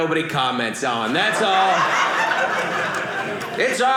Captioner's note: audience laughing